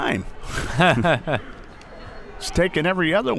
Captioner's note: both laughs